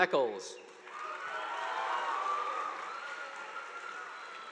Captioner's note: audience applauding